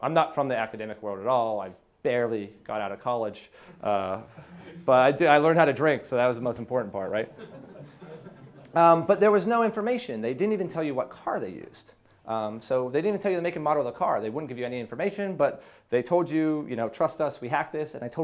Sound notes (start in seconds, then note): 7.2 audience laughs